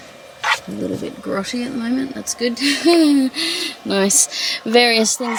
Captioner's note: laughs awkwardly